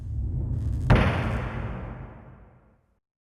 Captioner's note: gunshot